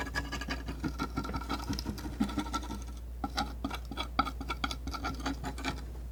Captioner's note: tapping